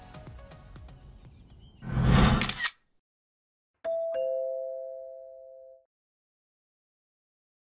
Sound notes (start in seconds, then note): 2.2 shutter clicks; 3.8 doorbell rings